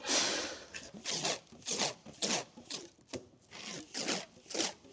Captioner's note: tape ripping